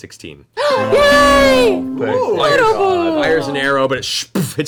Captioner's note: loud computer noise in the background